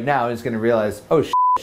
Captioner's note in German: Piepsen